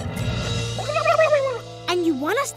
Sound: gobbling

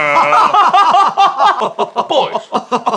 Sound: very performative laughter

